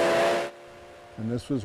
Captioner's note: train horn blowing